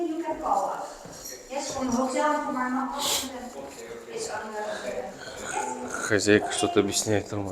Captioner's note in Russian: фыркает